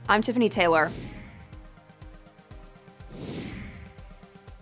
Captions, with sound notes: I'm Tiffany Taylor. (whooshing) (upbeat pop music) (whooshing)